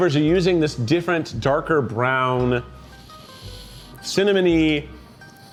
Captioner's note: sniffs